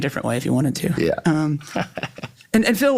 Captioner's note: chuckles